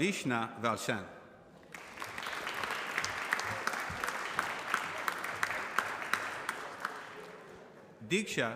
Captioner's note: applause